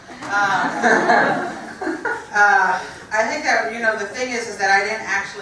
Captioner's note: laugh